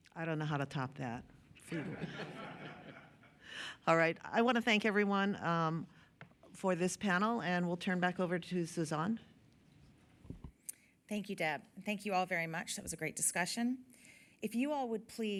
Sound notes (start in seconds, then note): 1.6 laughter